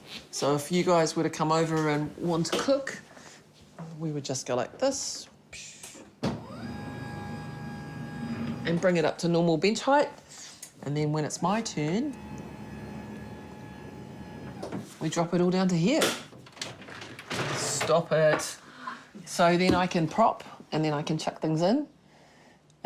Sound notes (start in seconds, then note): 6.4 mechanical whirring